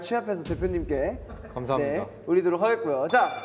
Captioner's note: hesitant